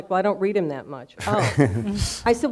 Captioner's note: laughing